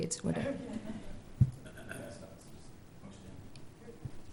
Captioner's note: murmurs